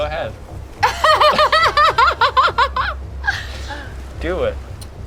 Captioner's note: player laughs